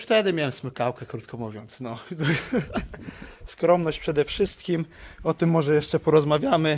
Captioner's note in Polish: śmiech